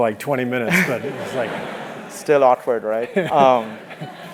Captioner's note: laugh